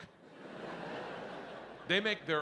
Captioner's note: audience laughing